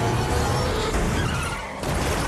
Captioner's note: brakes screech; crashing; gunshots